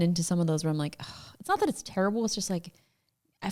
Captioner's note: sighs